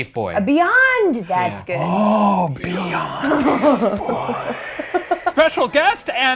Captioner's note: gasps